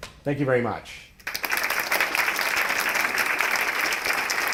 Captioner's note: applause